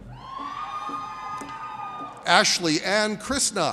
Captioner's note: audience cheers